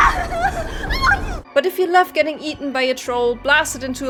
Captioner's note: Lillemore screaming